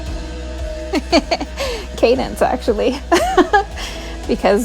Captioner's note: laughing